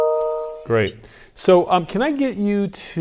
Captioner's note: chiming